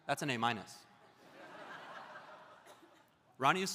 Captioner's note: audience laughs